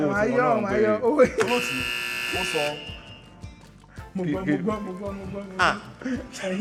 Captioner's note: buzzer pressed again